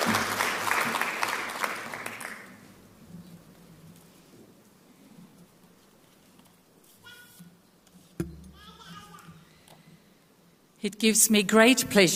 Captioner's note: applause